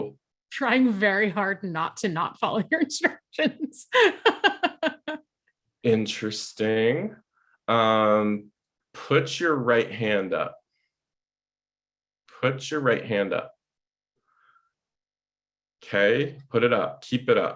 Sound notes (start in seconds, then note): 3.4 laughing